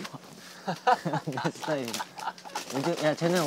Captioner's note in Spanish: Jajaja